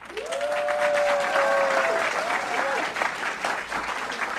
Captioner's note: audience cheering; audience clapping